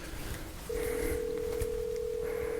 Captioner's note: phone rings